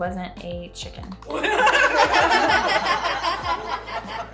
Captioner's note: laughter